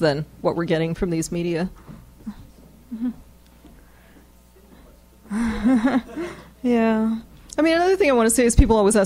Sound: laughs

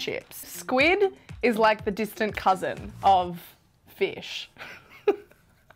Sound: laughs

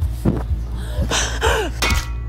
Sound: gasp

